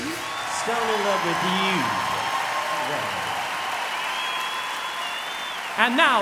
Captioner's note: cheering